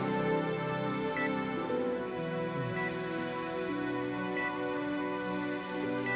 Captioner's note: air hissing; machine beeping